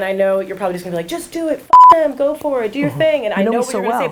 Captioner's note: beep